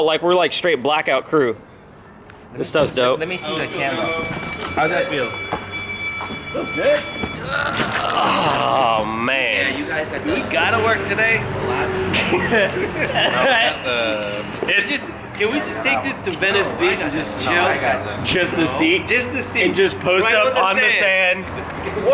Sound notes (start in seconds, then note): 11.9 laughing